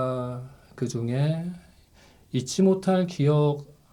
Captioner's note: none